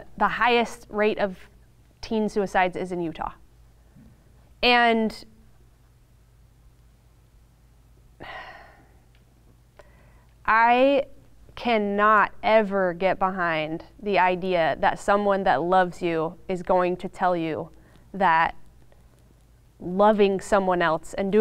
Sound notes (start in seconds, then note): 8.2 sighs